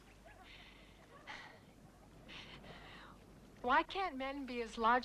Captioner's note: Hundra sighs